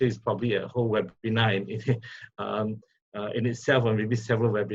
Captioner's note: laughs